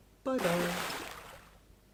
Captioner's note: big Splash!